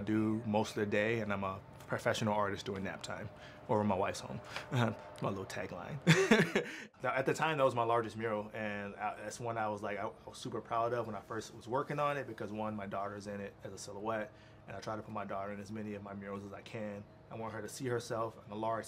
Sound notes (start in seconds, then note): 6.0 laughs